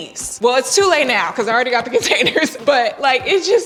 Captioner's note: chuckles